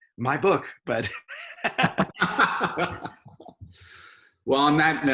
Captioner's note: both laughs